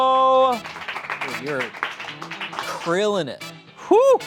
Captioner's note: friends clap